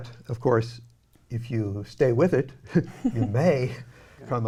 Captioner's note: laughs quietly